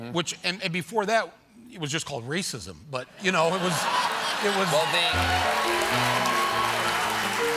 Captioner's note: cheers and applause